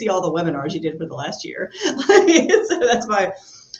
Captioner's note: laughs